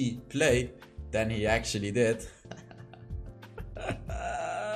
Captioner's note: laughs